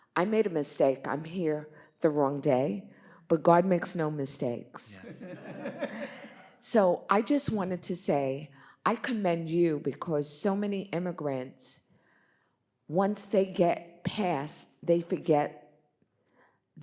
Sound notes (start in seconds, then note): 4.9 Bob laughs; 5.0 audience laughs